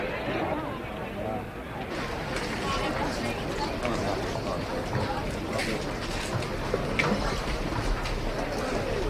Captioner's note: people chattering